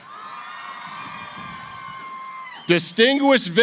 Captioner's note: cheering